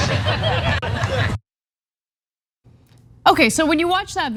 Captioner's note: laugh